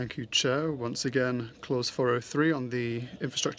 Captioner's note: speaking french